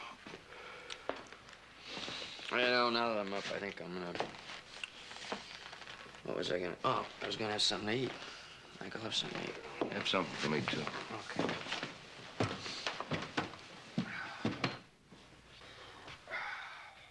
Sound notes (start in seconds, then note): none